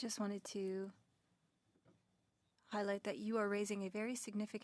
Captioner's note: speaking French